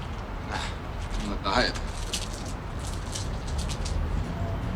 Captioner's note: chocolate bar rustling